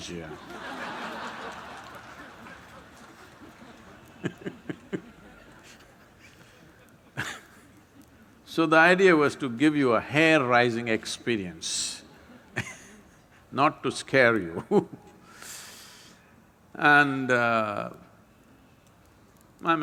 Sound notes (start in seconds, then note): 0.3 laughter; 14.1 laughs